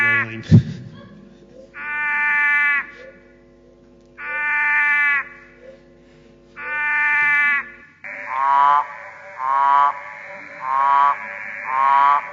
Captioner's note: sounds of Hidden Ear frog call